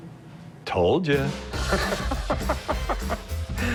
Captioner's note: laughs